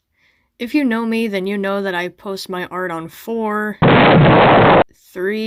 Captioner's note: explosion